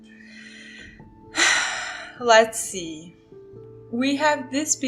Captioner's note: sigh